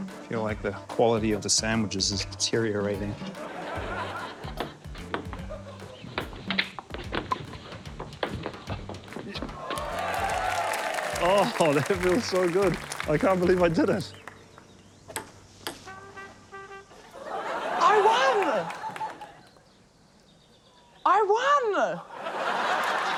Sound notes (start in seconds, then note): 3.2 laughter; 9.5 cheering, applause; 17.0 laughter; 21.9 laughter